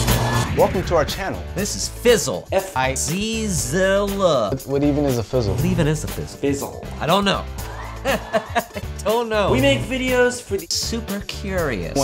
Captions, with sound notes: Welcome to our channel! This is Fizzl. F-I Z-ZZZZZZZZZZEL What even is a Fizzl? What even is a Fizzl? Fizzzzzl I don't know! (laughing) I don't know. We make videos for the super curious.